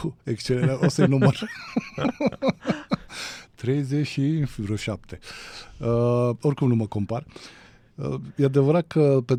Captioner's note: laughter